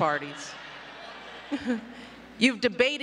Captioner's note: laughter